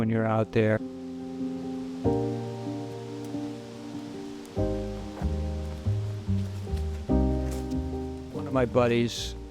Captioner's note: leaves rustling in wind